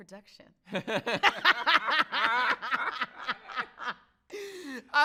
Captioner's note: both laughing